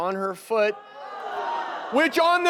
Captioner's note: audience groans